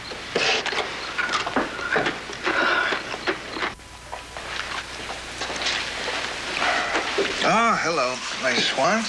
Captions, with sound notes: (EXHALES) Oh, hello, my swan. Hi.